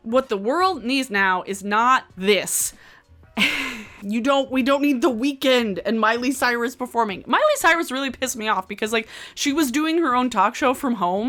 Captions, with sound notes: What the world needs now is not this. (laughs) You don't, we don't need The Weeknd and Miley Cyrus performing. Miley Cyrus really pissed me off because like she was doing her own talk show from home,